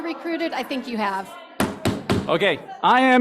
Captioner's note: gavel tapping